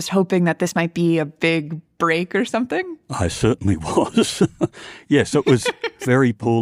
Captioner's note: laughs